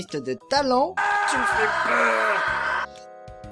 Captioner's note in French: cri